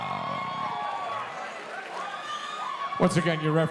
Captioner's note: audience cheering